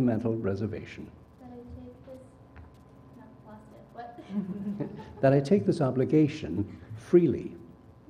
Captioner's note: laugh